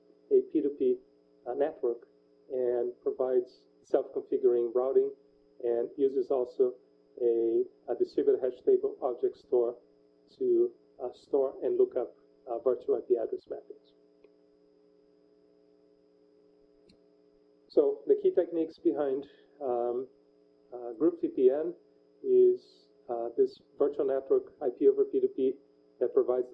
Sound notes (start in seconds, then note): 13.9 pause